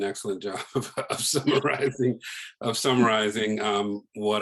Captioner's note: laughs